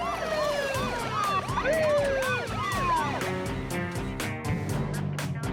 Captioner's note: siren blaring